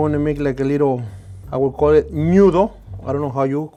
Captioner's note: speaks Spanish